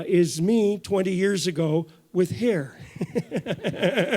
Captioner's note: laughs